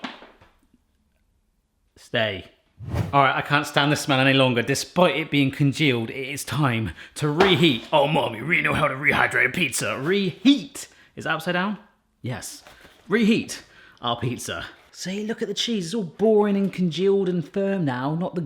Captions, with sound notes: Stay. All right, I can't stand the smell any longer despite it being congealed, it's time to reheat. (in silly voice) Oh mommy, we know how to rehydrate a pizza. (in normal voice) Reheat, is it upside down? Yes, reheat our pizza. See look at the cheese. It's all boring and congealed and firm now,